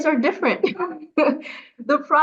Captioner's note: laughs